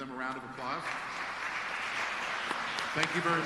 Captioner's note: applause